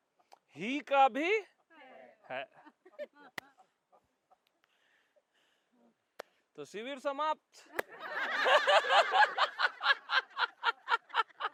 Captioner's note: laughter